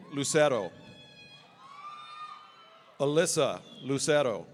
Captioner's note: audience cheering